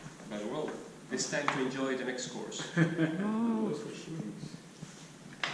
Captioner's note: laughs